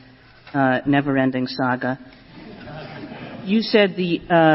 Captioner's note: laughter